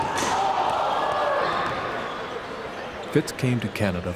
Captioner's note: cheering